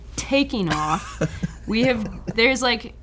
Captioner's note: laughing